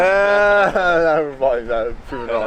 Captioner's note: laughing